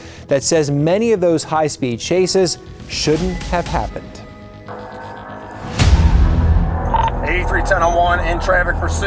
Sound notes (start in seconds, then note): 5.7 car engine revving